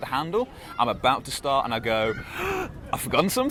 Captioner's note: gasps